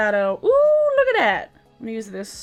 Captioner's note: screaming